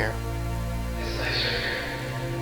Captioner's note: distant echo "it's nicer here"